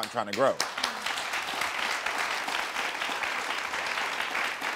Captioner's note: audience applauding